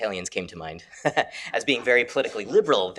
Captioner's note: chuckles